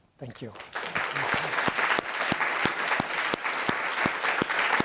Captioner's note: audience applauds